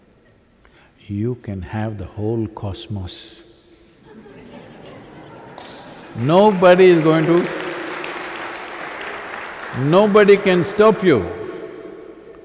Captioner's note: laughter